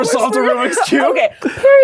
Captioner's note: both laugh